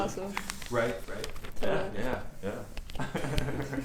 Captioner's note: laughs